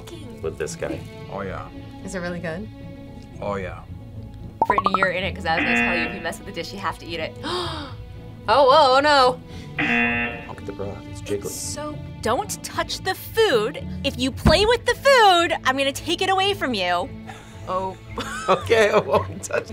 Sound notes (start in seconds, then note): 7.8 gasps; 9.7 buzzer; 18.1 laughs